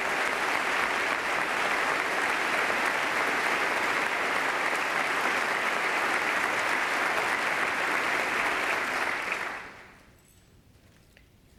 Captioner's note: applause